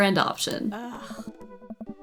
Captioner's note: groans